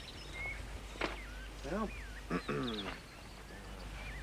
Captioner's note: clearing throat